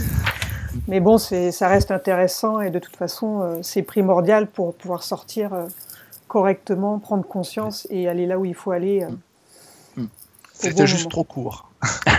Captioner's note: laughs; laughs